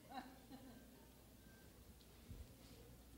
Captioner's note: laughs